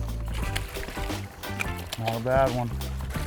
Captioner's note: fish splashing